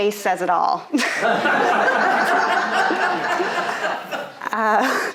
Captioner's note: audience laughing